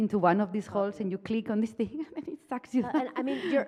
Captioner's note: chuckles